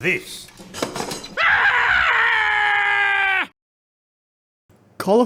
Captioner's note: american screaming